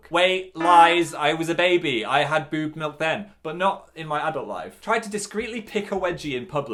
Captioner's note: none